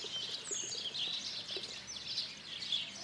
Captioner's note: birds chirping